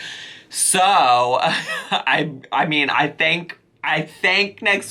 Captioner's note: laughs